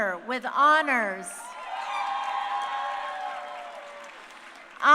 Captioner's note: crowd cheering